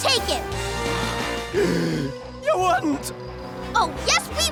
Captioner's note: gasps